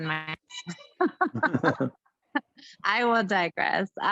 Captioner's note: laughs